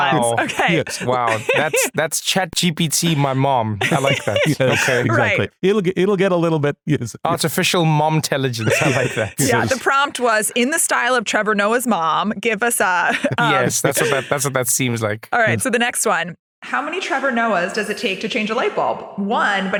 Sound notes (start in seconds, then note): 3.0 laugh; 13.0 laugh